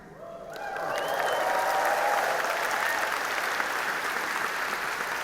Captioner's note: audience applauding